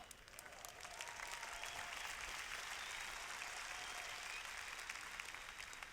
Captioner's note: applause